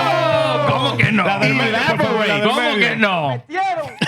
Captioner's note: cheering; speaking In Foreign Language